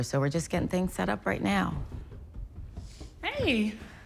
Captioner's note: footsteps